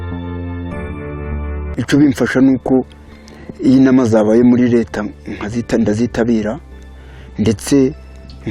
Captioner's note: speaking in Kinyarwanda